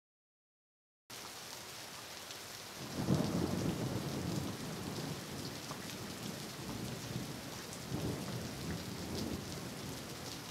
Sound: sound of thunder

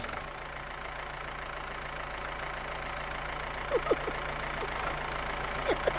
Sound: motor rumbling; giggling

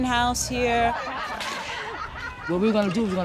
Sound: laughter

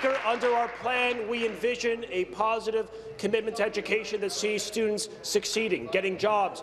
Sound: applause

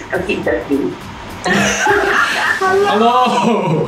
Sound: laughs

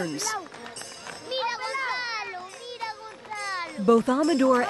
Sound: boys speaking in Spanish

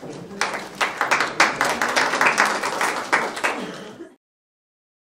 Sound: audience applauding

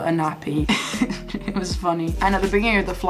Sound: laughs

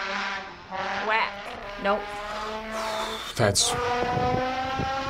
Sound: exhales shakily

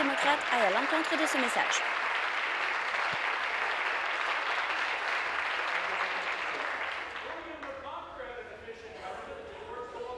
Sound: applause

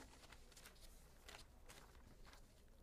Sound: page turning

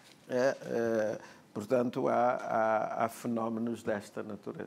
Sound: speaking portuguese

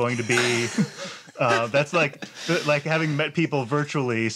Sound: laughter

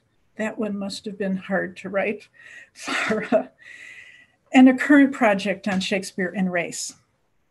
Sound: laugh

